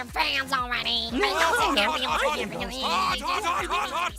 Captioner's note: arguing